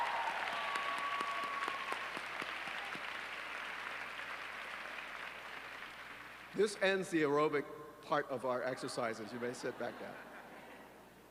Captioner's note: applause